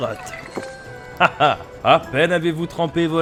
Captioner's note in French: Ha ha !